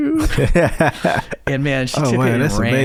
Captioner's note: laughing